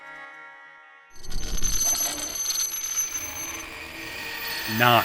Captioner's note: coding, rattling